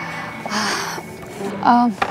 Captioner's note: Falguni sighs